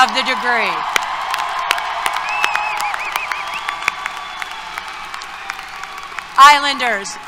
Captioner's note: applause, Cheers